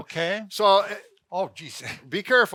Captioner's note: chuckles